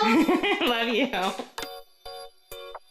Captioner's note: laughs; gentle upbeat music